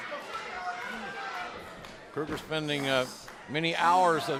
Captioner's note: crowd chatter